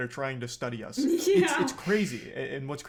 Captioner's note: laughs